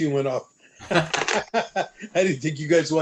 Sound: laughter

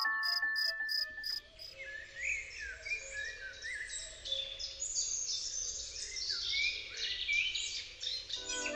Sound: sounds of nature; soft music, sounds of nature

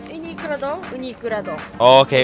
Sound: speaking in Japanese

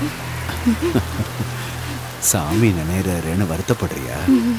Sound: laughing

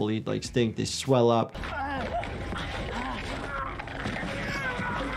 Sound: victim gasps and hacks

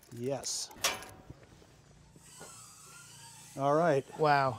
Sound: door opening; click

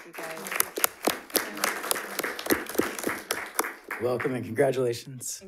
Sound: audience applauding

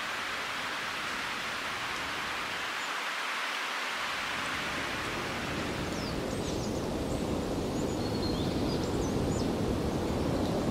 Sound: wind

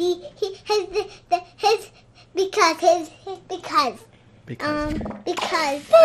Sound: stammering

